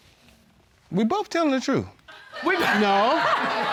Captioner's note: laughter